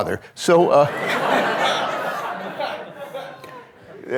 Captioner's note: audience laughing